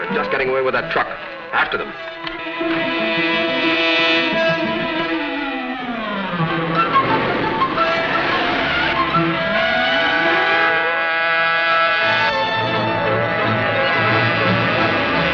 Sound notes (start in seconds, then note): 2.5 dramatic, orchestral music; 8.7 tires squealing